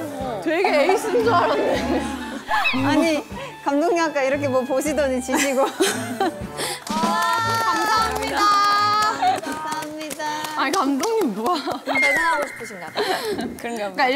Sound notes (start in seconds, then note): 6.7 round of applause to the staff